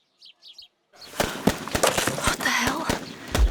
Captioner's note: gunfire; dance music plays in distance